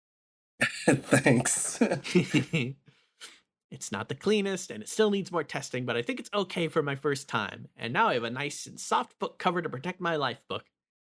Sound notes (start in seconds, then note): 0.6 laughs